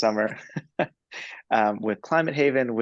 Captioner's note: laughs